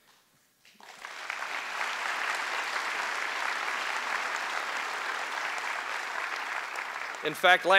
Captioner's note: applause